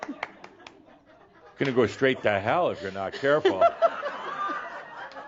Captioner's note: a few chuckles; laughter